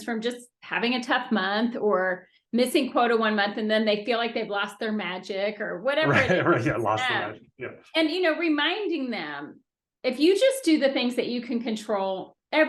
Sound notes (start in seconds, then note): 6.0 laughing